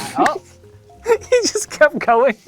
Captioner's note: laughs